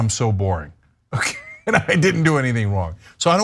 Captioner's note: laugh